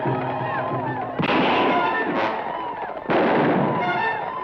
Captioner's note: guns fire